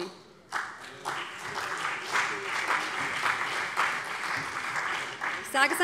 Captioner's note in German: Beifall BÜNDNIS 90/DIE GRÜNEN und CDU